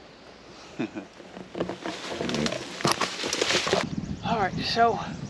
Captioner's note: cameraman chuckles